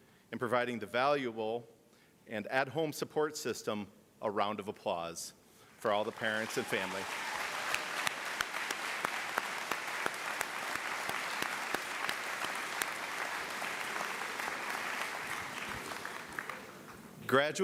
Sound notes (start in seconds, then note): 11.4 applause